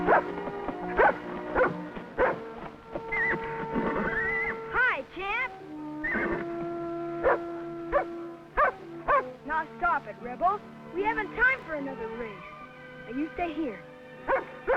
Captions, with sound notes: (Rebel barking) (Champ whinnying) - Hi Champ. (Rebel barking) Now stop it Rebel. We haven't time for another race. Now you stay here.